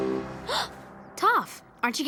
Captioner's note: gasps